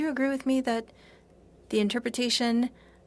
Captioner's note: speaking in French